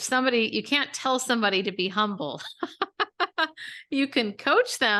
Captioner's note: laughs